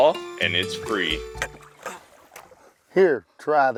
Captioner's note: tired grunting